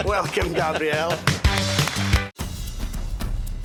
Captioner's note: laughing; applause; energetic percussive music